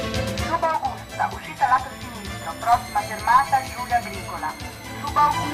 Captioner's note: automated announcment